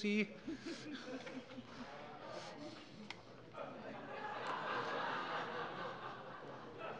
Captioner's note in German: Allgemeine Heiterkeit